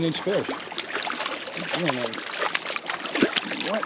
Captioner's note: fish splasing